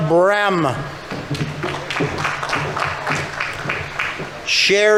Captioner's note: audience applauding